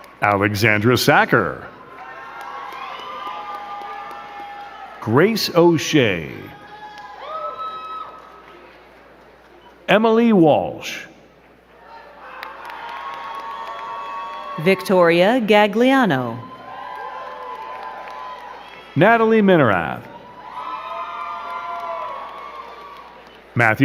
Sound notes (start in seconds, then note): 0.0 crowd cheering and clapping; 2.4 crowd cheering and clapping; 7.5 crowd cheering and clapping; 11.7 crowd cheering and clapping